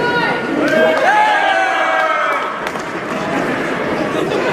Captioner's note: crowd Yells